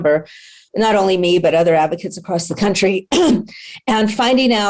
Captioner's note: coughs